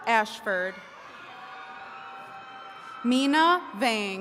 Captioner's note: attendees cheering